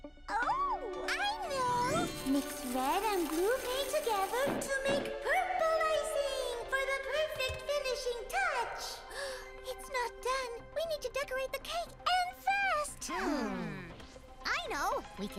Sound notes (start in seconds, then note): 9.0 gasps